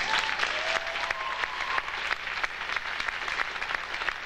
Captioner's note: audience applauding